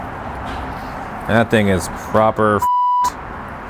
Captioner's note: beep